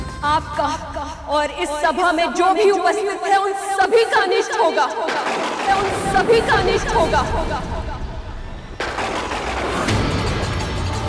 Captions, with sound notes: Everyone present here will go through adversity. [exploding] Will go through adversity! [thundering]